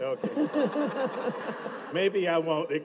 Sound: audience laughs

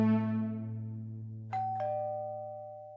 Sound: doorbell

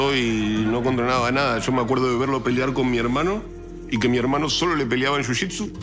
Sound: speaking in Spanish continues

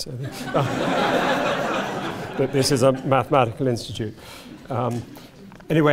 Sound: laugh

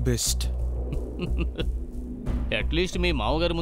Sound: chuckles

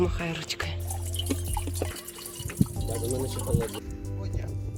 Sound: gurgling water

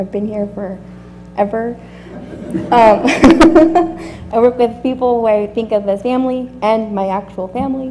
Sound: laugh

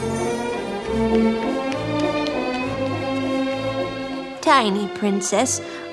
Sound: feet pattering

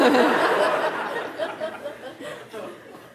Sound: laughter

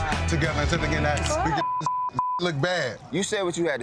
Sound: beeping

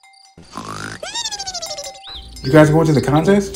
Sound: fairy snoring

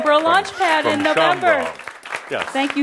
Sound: audience applause

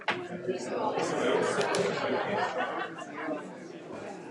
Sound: laughs

